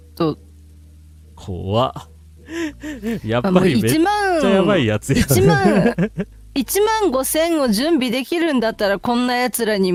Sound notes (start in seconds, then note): 5.1 laugh